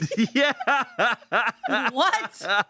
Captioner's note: laughs